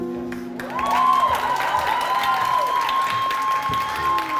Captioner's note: cheering